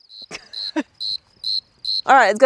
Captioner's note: crickets chirping